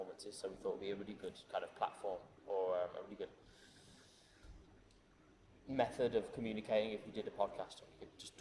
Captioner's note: inhales